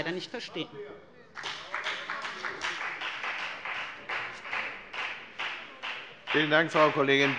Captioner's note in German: Beifall bei der : Genau das machen wir doch!